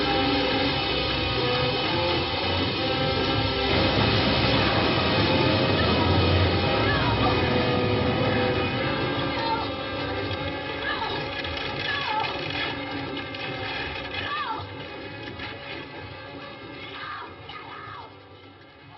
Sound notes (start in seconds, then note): 2.2 suspenseful music continues; 5.1 engine revving; 12.2 suspenseful music continues